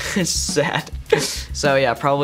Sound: laughs

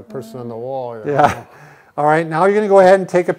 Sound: laughing

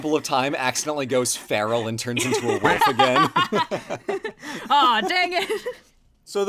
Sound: laughs

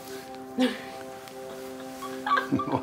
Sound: laughs

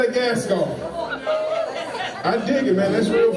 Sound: cheers quickly

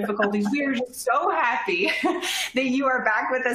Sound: laughter

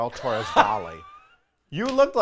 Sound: laughs

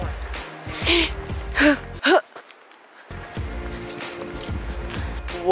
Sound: inhaling and exhaling

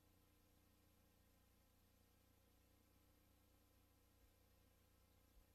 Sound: quiet VHS static

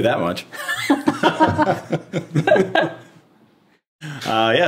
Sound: all laughing

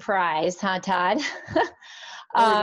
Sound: laughs

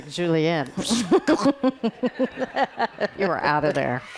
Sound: laughing

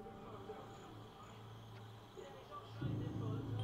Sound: TV playing

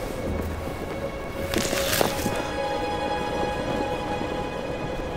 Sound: rocks falling; flag flapping in breeze

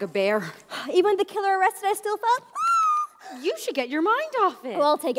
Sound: shivers

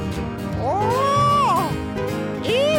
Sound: רופרט צועק

